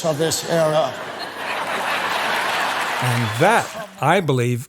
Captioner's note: audience applauds